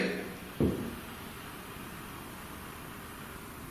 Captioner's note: thud